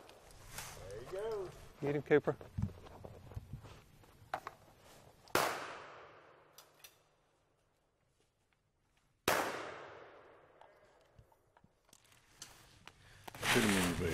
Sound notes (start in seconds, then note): 5.3 gunshots